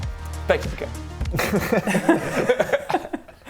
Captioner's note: capitalistic laughter